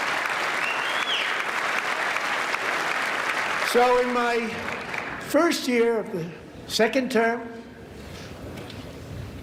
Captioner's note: applause